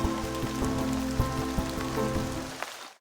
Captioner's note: rain pattering